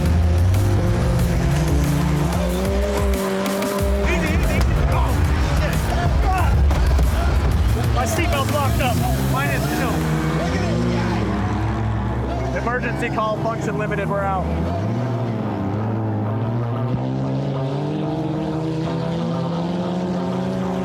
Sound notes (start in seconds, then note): 6.0 exclaiming; 6.3 impact; 17.3 cars speeding away